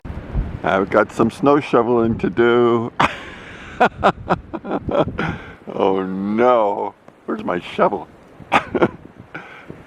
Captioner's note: laughing